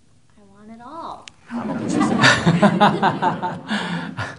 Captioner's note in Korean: 청중/스님 웃음